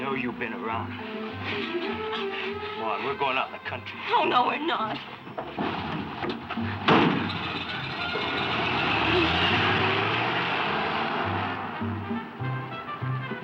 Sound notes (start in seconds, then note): 5.5 car engine roaring; 6.4 uptempo jazz music